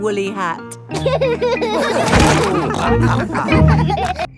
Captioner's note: all laughing